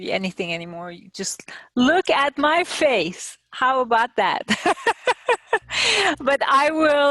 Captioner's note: laughing